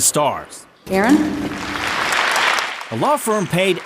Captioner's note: applause